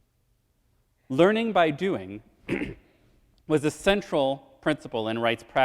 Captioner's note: clears throat